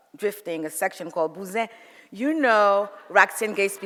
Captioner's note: speaks foreign language